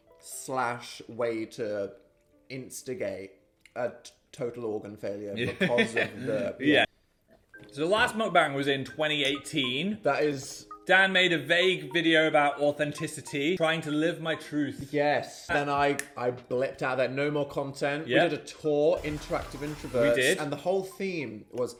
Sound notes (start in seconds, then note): 5.4 chuckles; 15.9 fingers snapping